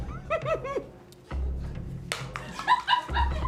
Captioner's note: laughs; crew laughs